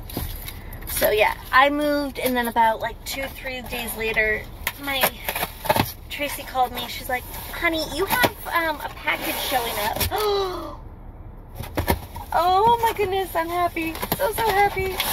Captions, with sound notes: So yeah. I moved and then about like two / three days later my ... Tracy called me. She's like, "honey you have um a package showing up." [ shocked gasp ] Oh oh my goodness! I'm happy! So so happy!